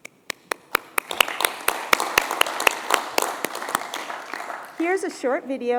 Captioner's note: applause